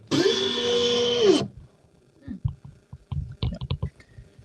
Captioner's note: blowing